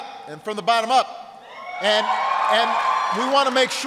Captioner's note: applause